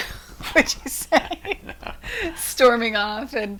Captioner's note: laughing